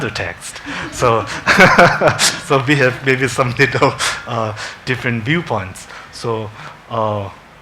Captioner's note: laughs